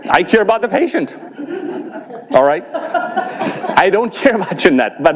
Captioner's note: audience laughs